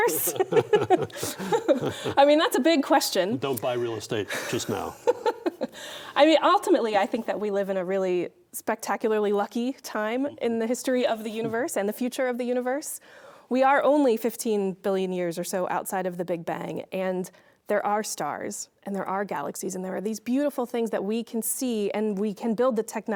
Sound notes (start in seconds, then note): 0.0 both laughing; 4.3 laughing